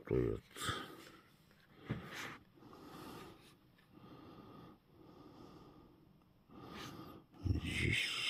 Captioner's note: breathing